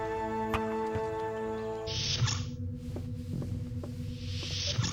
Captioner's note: doors swish